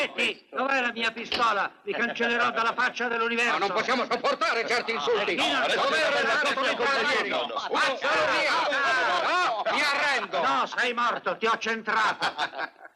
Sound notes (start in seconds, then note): 5.6 chattering